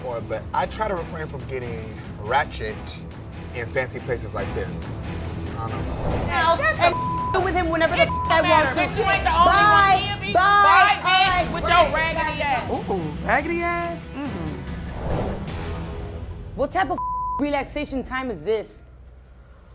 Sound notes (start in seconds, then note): 7.8 beep; 14.8 intense music; 16.9 beep; 19.5 dramatic music